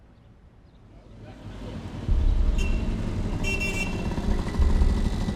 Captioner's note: horn honking